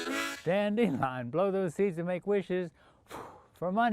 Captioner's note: puffs